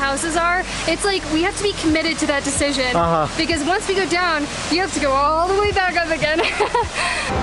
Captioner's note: laughter